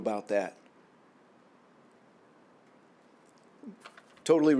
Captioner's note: silence